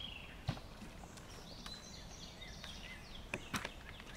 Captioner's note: birds chirping